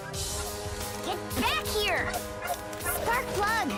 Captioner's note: barking